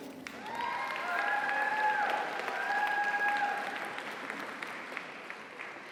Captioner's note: audience applauds; audience cheers